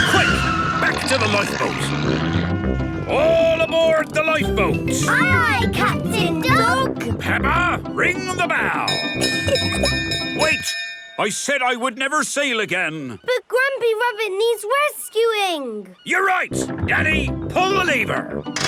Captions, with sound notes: - Quick, back to the lifeboat! All aboard the lifeboat! - Aye aye, Captain Dog! - Peppa, ring the bell! (bell chimes) Wait! I said I would never sail again! - But Grampy Rabbit needs rescuing! - You're right! Danny, pull the lever!